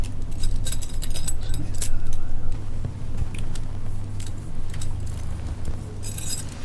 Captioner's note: keys clinking